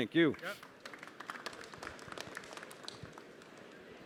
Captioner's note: applause